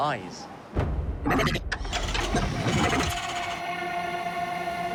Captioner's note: robotic whirring